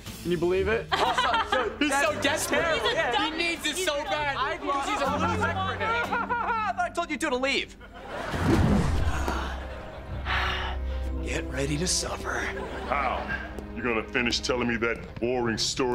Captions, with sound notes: Can you believe it? [laughing] - He's so desperate! - That's terrible! Yeah! He needs this so bad!' Cause he's a loser! Ha ha ha! I thought I told you two to leave! [sighing] Get ready to suffer. How? You gonna finish telling me that boring story